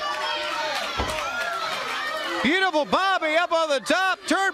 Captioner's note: crowd cheering